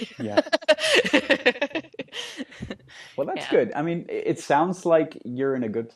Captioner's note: laughing